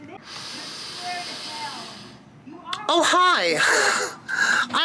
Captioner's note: sniffs